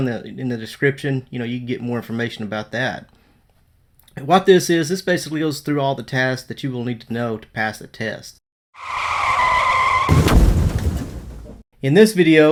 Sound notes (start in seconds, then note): 8.7 tire screeching; 8.8 explosion